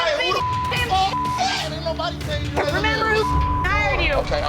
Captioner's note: overlapping screaming; beep